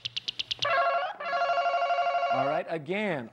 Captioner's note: ringing